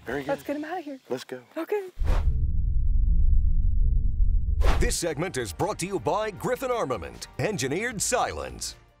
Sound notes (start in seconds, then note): 2.0 thunder rumbling